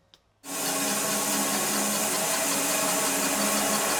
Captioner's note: sawmill sawing